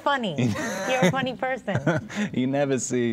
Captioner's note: laughing